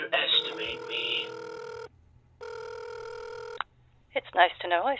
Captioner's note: phone ringing